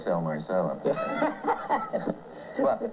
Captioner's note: laughter